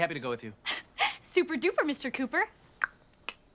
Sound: clicks tongue

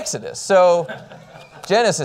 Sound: laughter

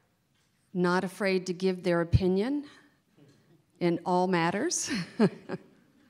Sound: laughs

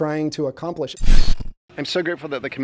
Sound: visual buzzes

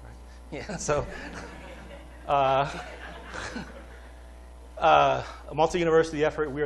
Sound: laughter

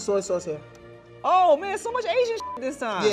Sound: beep

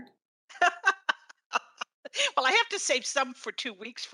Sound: laughing

